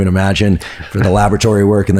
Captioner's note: laughs